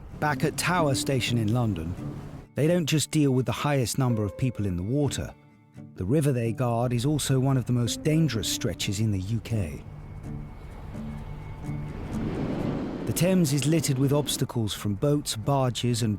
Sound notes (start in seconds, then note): 10.2 uplifting instrumental music; 12.5 boat engine whirring